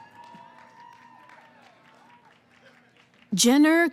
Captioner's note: cheering